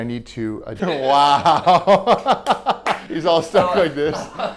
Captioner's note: laughing